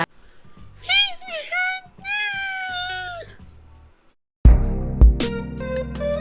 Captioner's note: vampire squeaky voice